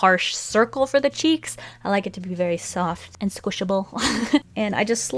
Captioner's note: laughs